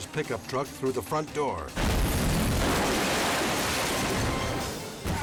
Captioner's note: glass shatters